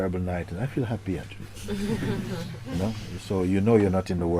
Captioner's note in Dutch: Gelach